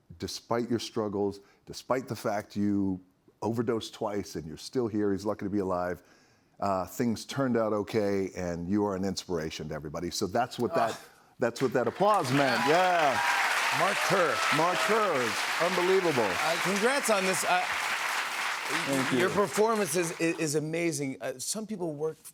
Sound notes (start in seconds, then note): 11.6 cheers and applause